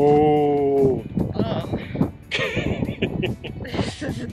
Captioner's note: laughs